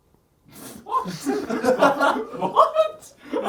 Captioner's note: audience laughs